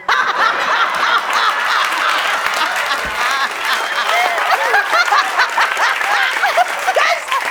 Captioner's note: laughs